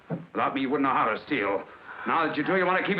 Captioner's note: slap